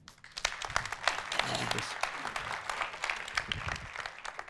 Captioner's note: audience applauding